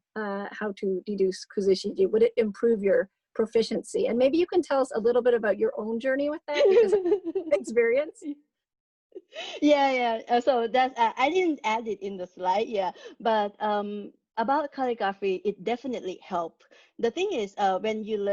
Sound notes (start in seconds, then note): 8.5 laughing